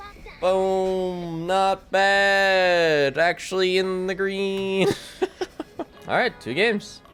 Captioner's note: laughs